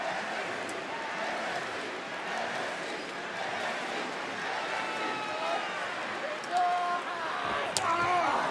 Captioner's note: crowd chants